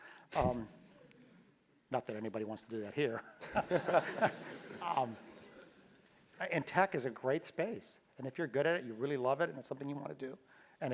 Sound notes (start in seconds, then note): 0.2 laugh